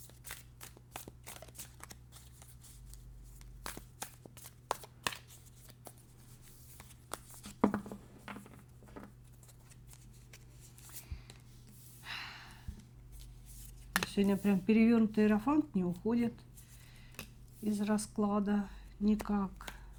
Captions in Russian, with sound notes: [вздыхает] Сегодня прямо перевёрнутый рофант не уходит из расклада никак.